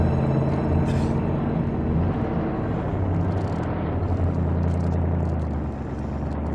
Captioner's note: suspenseful music continues; Frank coughing